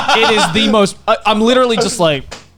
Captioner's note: laughing